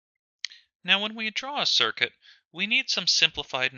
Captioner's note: voiceover